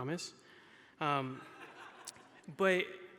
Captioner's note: audience laughing